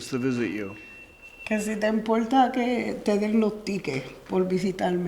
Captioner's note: speaking foreign language